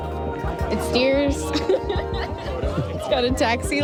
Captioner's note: laughs